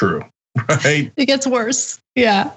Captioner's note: laugh